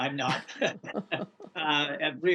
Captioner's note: laughter